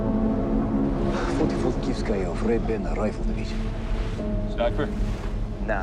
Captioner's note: Teplov speaking in foreign language